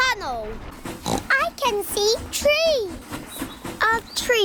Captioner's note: oinks